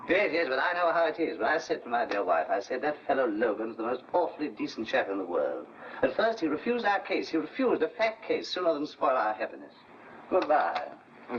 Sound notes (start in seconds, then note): none